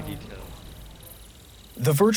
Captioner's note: crickets chirping